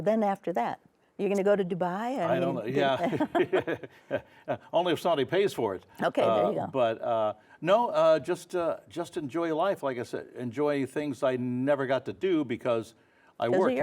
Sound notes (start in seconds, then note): 2.3 laughs